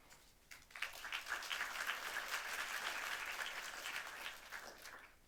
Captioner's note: applause